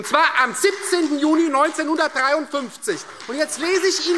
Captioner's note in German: Beifall Freie Demokraten und vereinzelt CDU